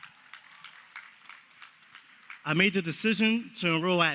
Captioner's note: applause